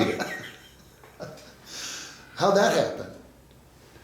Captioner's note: laughs